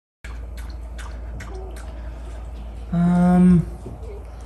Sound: dog slurping

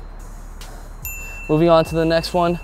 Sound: heavy breathing; bell dings

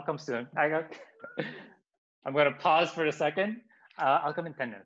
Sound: chuckles

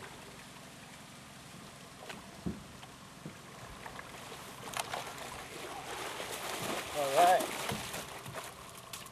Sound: boat engine running; fish splashing

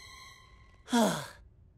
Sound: sighing

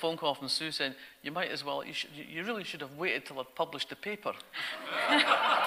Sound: audience laughter

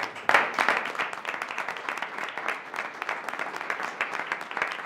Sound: audience applauding

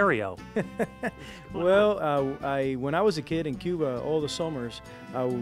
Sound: chuckles

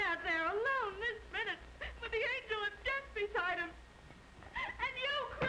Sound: sobbing

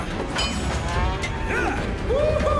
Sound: grunt

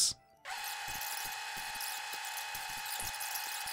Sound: machine whirring

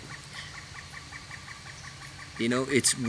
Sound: noisy woodpecker

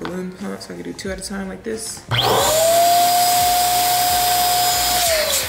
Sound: pump purring

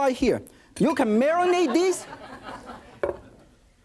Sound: audience laughs

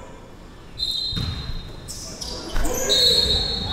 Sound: whistle; whistle

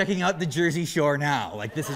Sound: laughter

